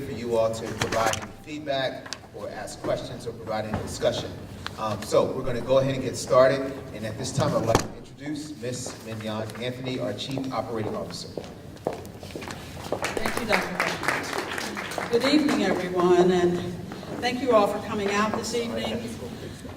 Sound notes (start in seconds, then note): 12.9 applause